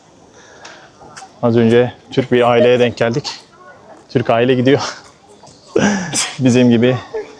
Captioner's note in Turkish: kahkaha